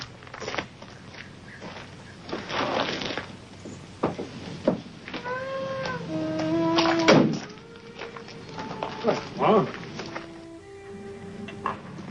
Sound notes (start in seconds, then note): 0.3 dirt smashing; 5.2 mellow music; 7.0 car door slamming